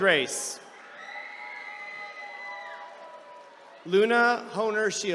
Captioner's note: attendees cheering